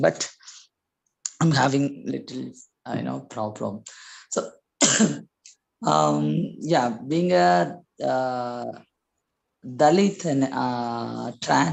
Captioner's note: cough